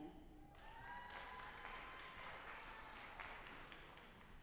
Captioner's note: audience applauding